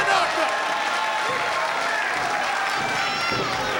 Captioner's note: crowd cheering